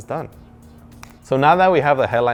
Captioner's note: finger snaps